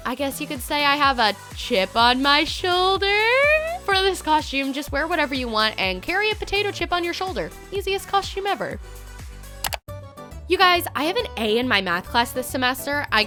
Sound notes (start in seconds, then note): 9.6 clicking